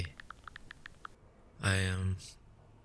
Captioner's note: SFX: Texting